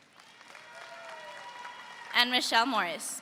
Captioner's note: audience applauds